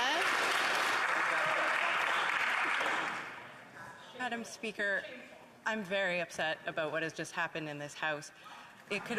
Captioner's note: some Applause